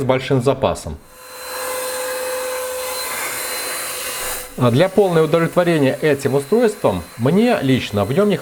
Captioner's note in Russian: шум мотора